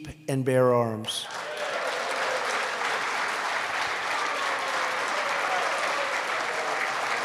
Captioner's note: applause